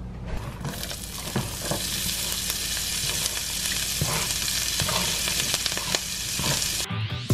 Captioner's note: sizzling